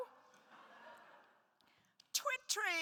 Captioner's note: attendees laughs